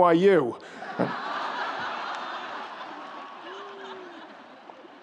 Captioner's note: audience laughs